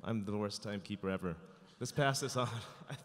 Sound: chuckling

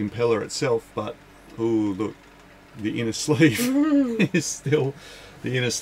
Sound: laughs

